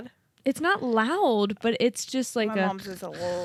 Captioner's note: imitates light snore